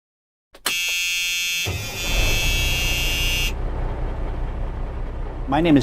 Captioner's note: car starting